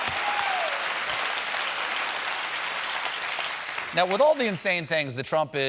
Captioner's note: cheers and applause; applause